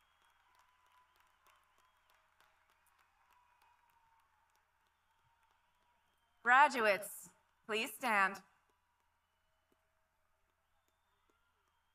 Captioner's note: applause